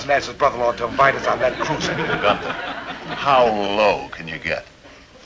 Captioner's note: audience chuckling